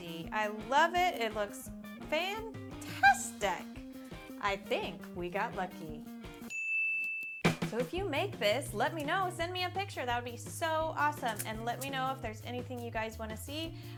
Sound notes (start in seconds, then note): 6.4 ding